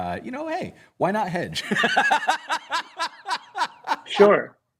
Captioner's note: laughter